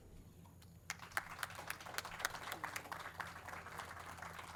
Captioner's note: audience claps